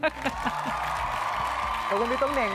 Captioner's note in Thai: เสียงปรบมือ